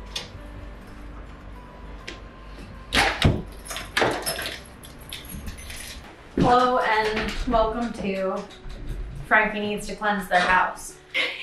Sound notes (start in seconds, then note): 0.1 gentle music; 3.0 door closing; 3.4 keys jangling